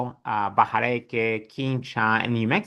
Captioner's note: speaks in foreign language